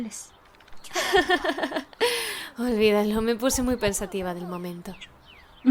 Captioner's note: laughs